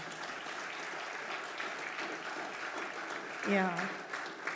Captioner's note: applause